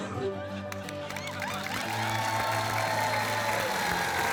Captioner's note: applause